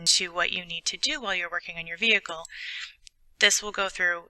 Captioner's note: computer voice reading